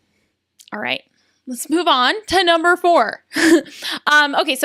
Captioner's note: laughs